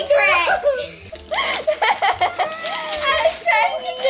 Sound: laughing

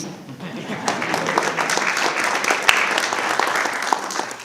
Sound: audience applauding

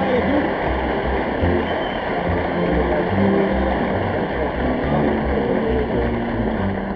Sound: audience applauding

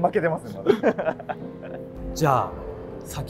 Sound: laughing

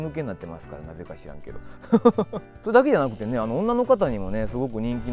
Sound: laughs

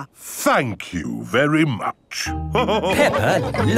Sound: all laughing

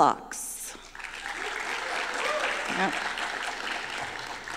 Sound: applause

